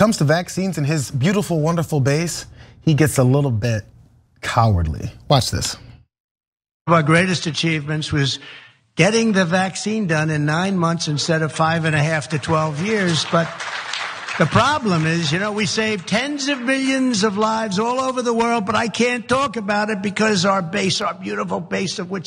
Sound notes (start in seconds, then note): 11.3 applause